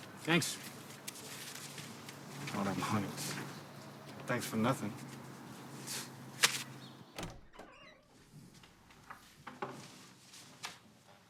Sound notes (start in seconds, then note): 6.3 scoffs; 7.1 door squeaks